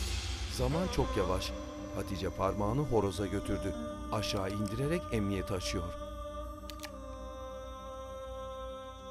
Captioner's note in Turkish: Müzik - Gerilim; Emniyet açma sesi